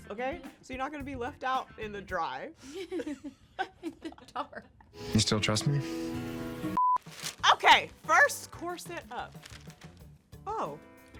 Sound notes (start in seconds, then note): 2.7 both chuckling